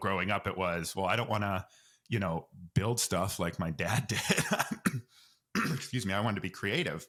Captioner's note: coughs